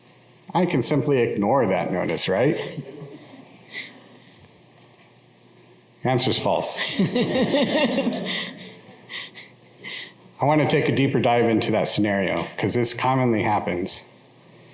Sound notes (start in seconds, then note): 6.8 laughter